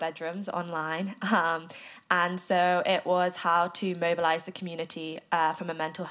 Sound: chuckles

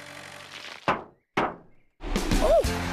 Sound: knock-Knock!

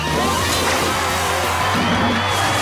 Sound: cheering

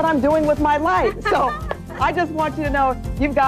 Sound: laughing

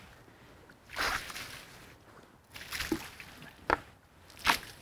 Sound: water splashing

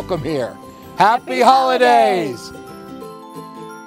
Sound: applause

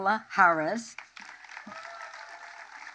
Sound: applause

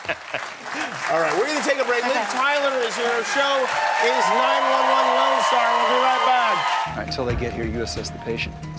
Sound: laughter; applause

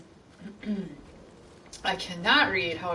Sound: clears throat

